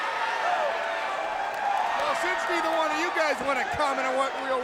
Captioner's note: crowd cheering